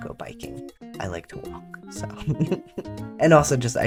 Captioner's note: laugh